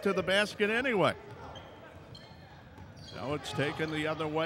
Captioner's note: yelling; shoes squeaking